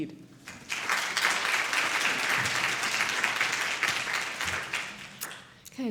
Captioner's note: applause